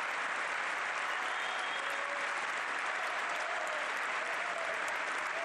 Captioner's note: cheering; applause